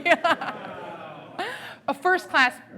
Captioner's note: laughing